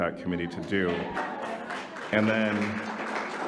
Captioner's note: audience applauding